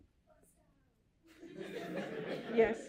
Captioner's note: laughter